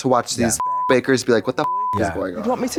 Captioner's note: beep